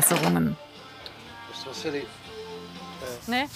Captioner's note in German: Leise Gesprächsfetzen